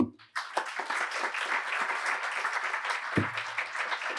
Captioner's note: applause